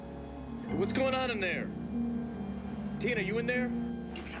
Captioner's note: crashing sound